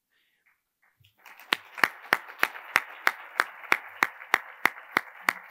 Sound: attendees applauding

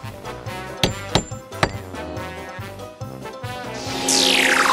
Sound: door knock

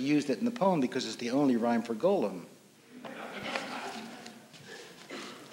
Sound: laughter

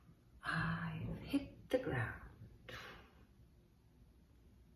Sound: exhales

